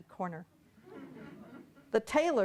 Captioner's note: audience laughing